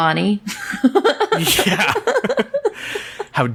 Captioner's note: laughs